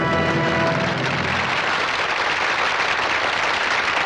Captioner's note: applauding